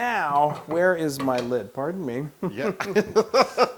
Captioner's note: laugh